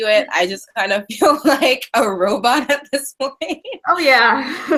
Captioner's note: laughing